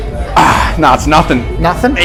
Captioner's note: grunts